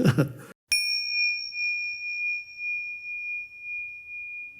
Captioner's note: bell chimes